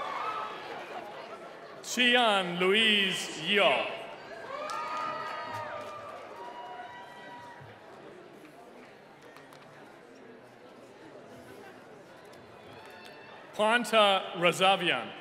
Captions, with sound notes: Chian Louise Yeo. (cheering) Quanta Resavian.